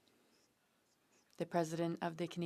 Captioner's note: speaking French